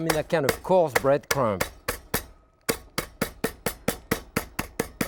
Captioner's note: utensil tapping